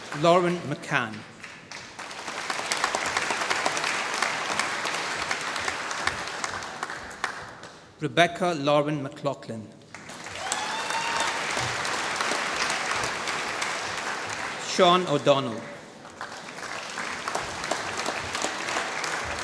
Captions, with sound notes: Lauren McCann. (APPLAUSE) Rebecca Lauren McLaughlin. (APPLAUSE) Cian O'Donnell. (APPLAUSE)